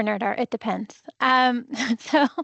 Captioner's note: laughs